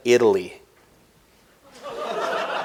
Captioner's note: laughter